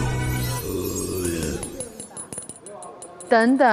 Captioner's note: Listen to the sound of double Golden Keys clinking